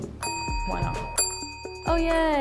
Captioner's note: bell dings